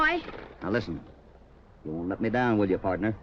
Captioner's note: none